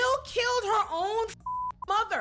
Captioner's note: beep